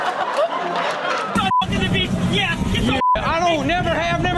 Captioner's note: audience laughing; beep